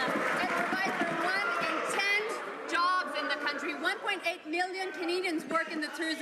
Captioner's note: some Applause